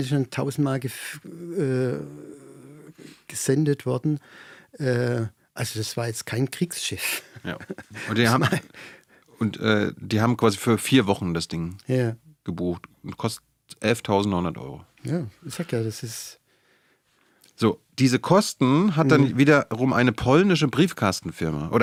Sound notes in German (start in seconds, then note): 2.6 schnauben; 7.1 gelächter